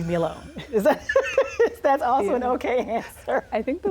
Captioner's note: laughs